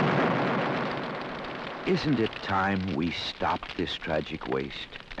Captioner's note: loud explosion blasting; fire crackling